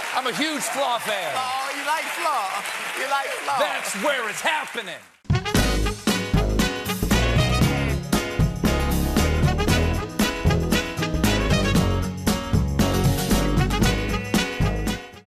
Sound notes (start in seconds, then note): 0.0 cheers and applause